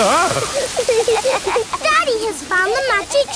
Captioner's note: laughing